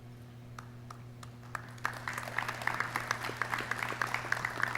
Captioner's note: clapping